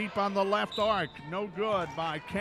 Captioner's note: referee whistling